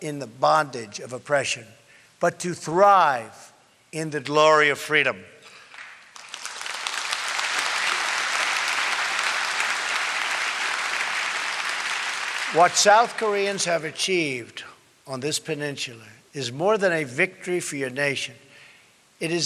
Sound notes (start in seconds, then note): 5.5 applause